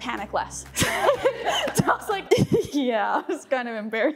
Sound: chuckles

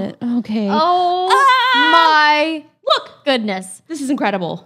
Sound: screams

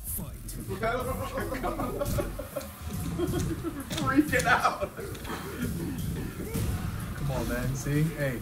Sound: laugh

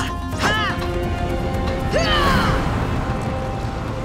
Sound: grunting

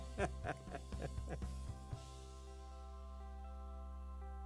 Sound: laughing

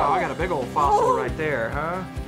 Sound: exclaiming

